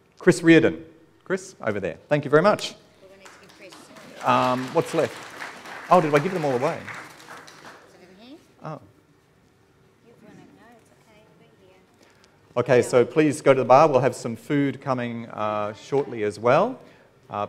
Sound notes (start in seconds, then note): 3.0 audience clapping